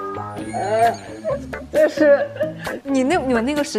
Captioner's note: laughs